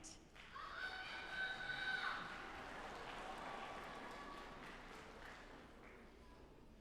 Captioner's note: audience applauding